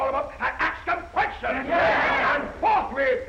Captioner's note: all chattering